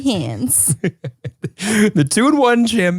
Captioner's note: laughing